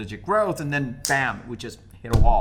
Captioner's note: snaps fingers